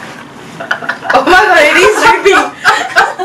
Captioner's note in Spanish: risas